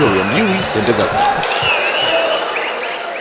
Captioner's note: wild applause and cheering for 22 seconds